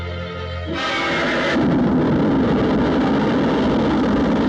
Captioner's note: engines flare up